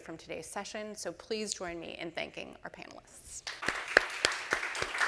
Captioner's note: audience applauding